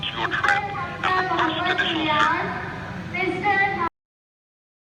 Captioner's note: lot of flight announcements in the background